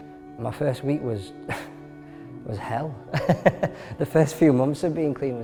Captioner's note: laughing